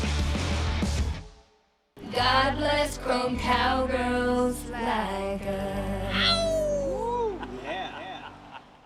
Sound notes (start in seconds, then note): 0.0 intense rock music; 6.2 people laughing